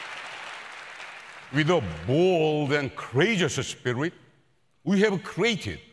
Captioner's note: applause